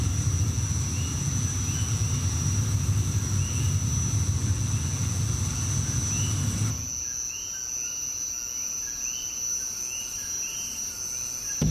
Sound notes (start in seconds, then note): 7.4 birds cry